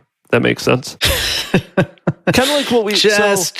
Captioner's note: laughs